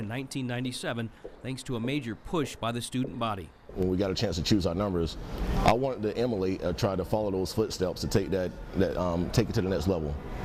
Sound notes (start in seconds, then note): 3.4 footsteps